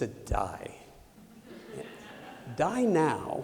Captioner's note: laughter